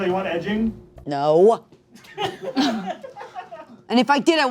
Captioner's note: laughs